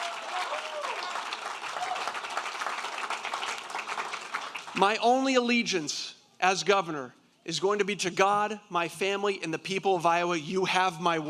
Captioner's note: applause